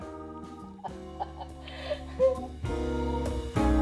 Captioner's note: laughing